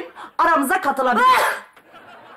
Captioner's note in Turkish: Hapşırma sesi